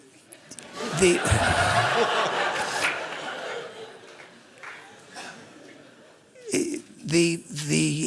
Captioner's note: laughter